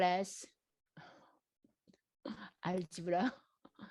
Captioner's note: laughs